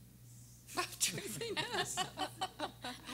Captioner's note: everyone laughing